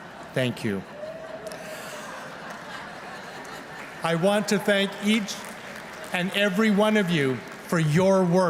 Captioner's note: laughter